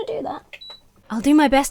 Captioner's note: fan beeps